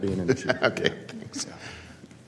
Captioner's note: laughter